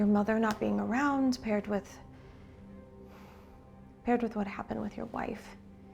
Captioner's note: sighs